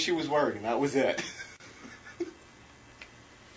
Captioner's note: laughs